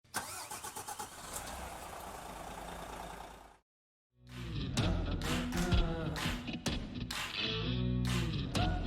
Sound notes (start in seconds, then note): 0.1 car engine starting; 4.2 upbeat music